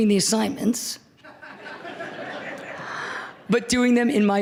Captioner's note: laughter